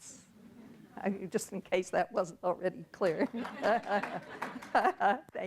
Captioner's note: audience laughing; laughs